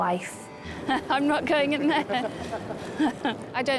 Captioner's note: laughs; husband laughs